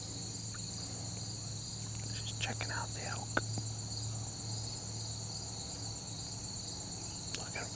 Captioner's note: whispering